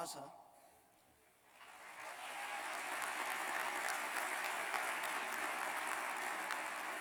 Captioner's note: applause